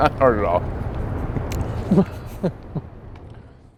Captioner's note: laughter